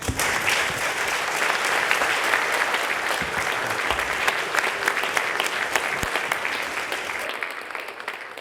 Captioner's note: applause